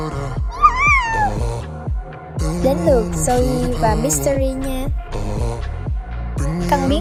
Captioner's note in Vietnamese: la hét